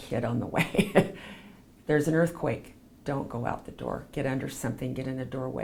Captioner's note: laughs